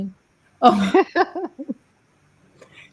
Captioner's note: laughs